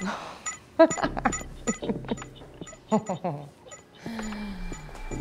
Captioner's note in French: rire